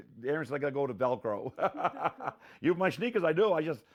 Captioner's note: laughing